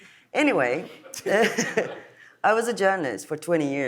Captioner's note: laughs